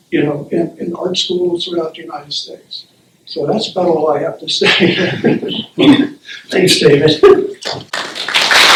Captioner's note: applause